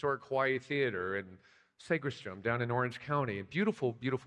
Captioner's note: none